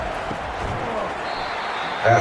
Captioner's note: crowd Noises